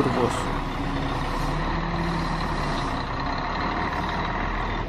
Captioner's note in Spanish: sonido ambiente del bus